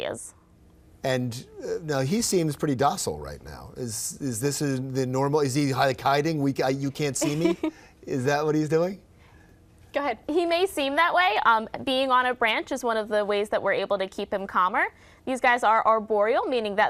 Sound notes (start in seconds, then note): 7.2 laughs